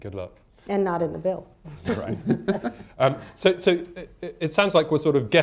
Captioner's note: laughter